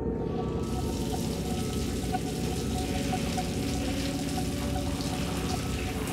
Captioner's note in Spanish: Sonido de la ducha